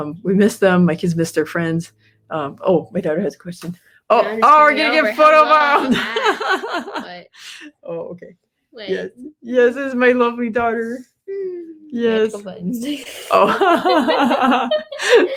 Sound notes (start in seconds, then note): 4.8 laughs; 13.0 both laughing